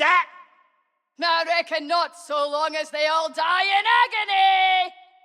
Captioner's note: laugh